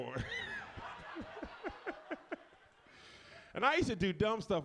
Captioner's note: audience laughs